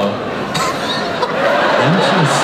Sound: audience laughs

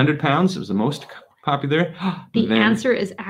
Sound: gasps

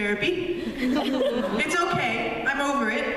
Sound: laughter

